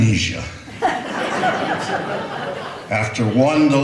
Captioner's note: laughter